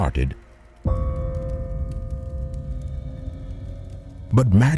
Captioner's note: bell chiming